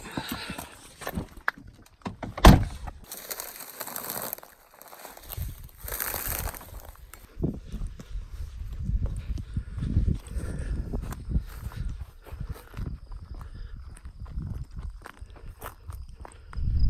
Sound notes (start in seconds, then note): 2.2 car door slams; 7.0 wind blowing; 16.4 crickets chirping